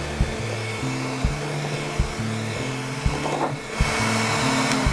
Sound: mixer blades whizzing rapidly

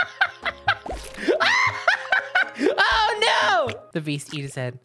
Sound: scream laughing

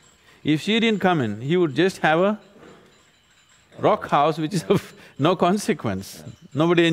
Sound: laughs

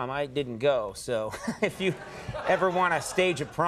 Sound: audience laughs

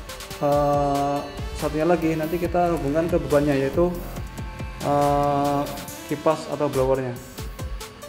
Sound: fan / blower

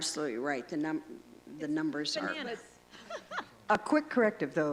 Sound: laughter

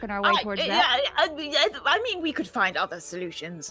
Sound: stammers

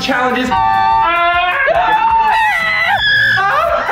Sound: screams and shouts

